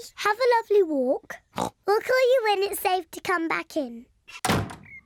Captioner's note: oinks